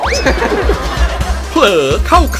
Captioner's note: laughing